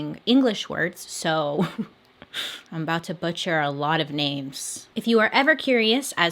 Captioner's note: giggles